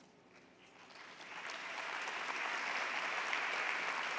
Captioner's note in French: Applaudissements